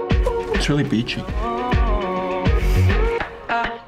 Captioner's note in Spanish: vocalizar; burlándose